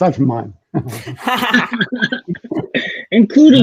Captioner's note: all laughing